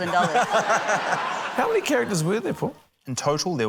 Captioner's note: laughter